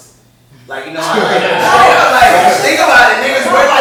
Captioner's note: laughter